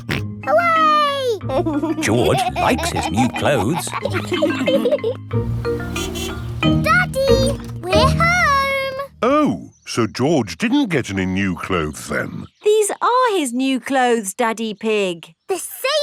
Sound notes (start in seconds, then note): 1.4 snorts and laughs; 5.4 horn honks